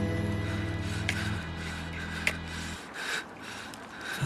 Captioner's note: strikes match repeatedly, pants furiously